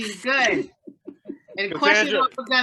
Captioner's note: student laughs